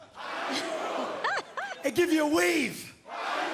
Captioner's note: fans chanting